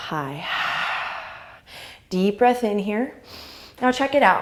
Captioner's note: inhale; exhale